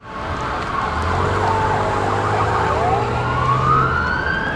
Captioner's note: sirens wailing